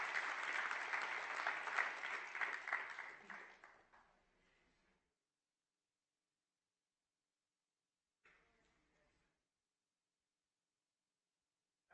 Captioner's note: applause